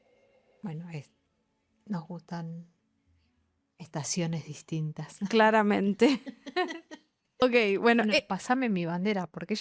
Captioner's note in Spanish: risas